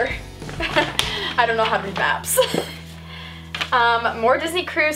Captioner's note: laughs